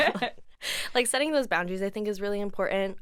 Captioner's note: laughs